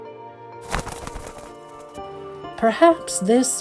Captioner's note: bird wings flap